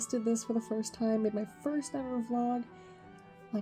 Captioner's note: none